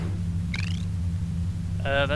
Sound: chirp

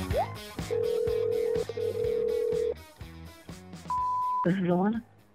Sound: phone ringing; beeping

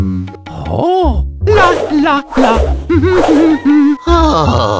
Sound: more humming

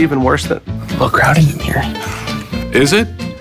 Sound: laughs

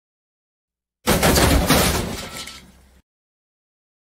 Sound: crash!

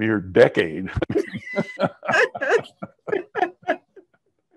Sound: both laughing

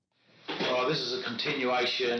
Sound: none

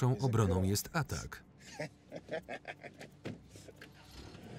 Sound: laughing

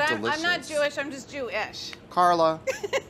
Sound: laughs

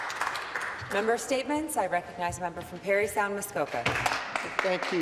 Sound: some Applause

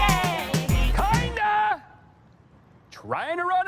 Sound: shouts

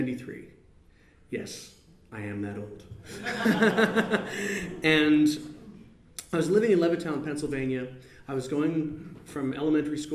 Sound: laughs

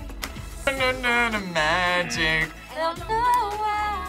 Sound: buzzer

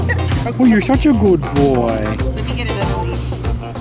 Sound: none

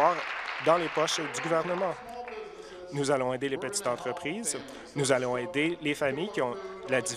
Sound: applause

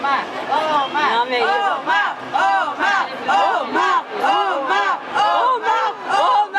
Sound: Fans cheering for Omar during press photo shoot

